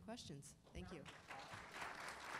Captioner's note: applause